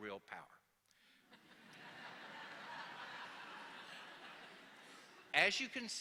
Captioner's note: laughter